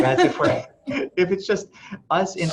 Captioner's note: laughter